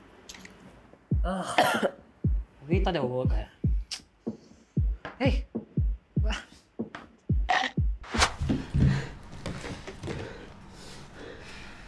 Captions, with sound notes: Ugh... [coughs] I really thought it would work eh. Hey! Wha-